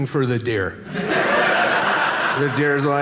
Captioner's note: audience laughing